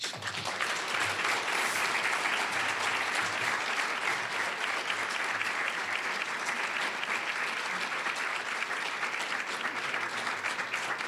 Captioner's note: applause